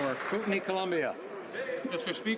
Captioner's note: some Applause